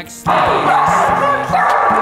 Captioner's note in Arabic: كلب ينبح